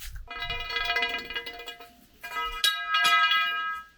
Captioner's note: metal clanging